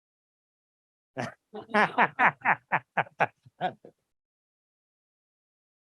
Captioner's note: laughter